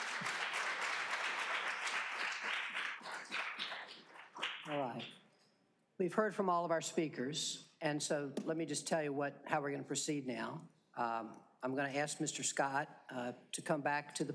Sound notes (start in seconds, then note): 4.4 applause